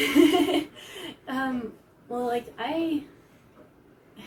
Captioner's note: laughs